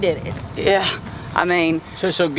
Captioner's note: scoffs